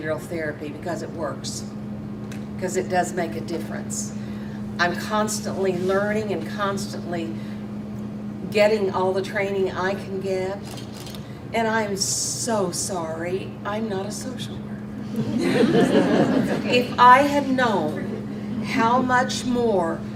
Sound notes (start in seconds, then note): 15.0 audience laughs